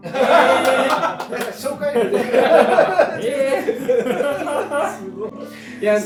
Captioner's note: laughs